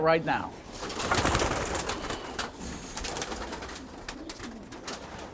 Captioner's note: wings rustling